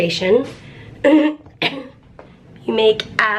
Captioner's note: clears throat